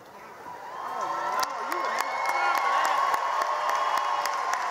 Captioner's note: cheering